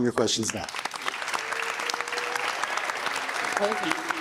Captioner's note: audience applauding